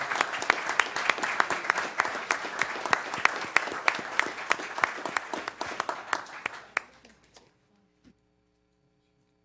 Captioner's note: applause